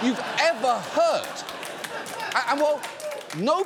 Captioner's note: audience laughs, applauds